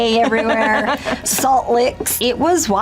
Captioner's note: laughs